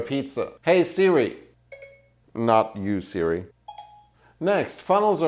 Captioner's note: bibip; bebeep